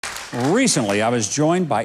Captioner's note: audience applauding